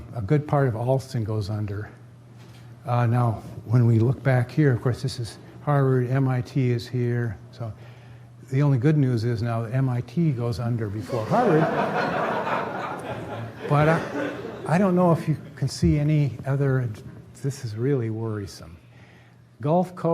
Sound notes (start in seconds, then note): 11.0 laughter